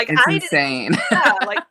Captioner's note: laughing